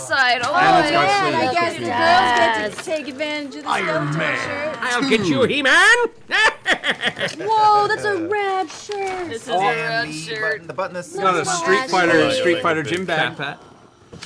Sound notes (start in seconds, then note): 4.7 Skeletor voice; 6.8 cackles